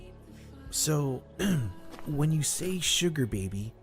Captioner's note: clears throat